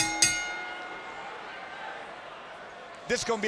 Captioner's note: bell dings; fans cheering